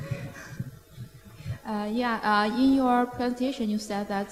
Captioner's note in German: lachen